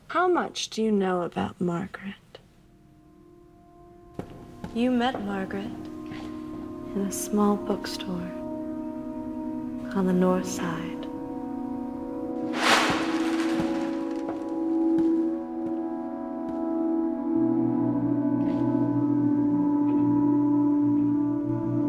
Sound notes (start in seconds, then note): 12.4 plastic rustles; 16.2 eerie music